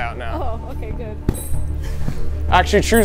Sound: laughing

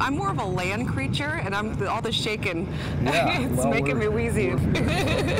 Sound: laughs

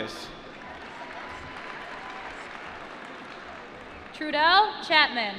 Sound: cheering

